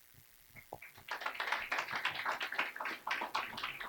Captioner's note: clapping